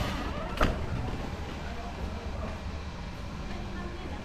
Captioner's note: door creaking